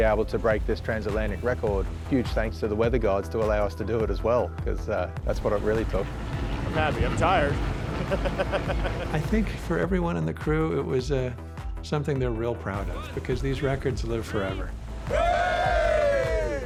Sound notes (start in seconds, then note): 7.9 laughs